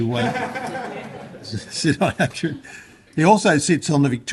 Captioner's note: laughter